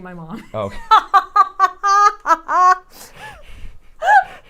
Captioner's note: laughs